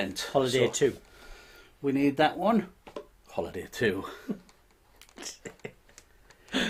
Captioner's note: chuckling